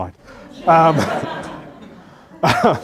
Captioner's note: laughter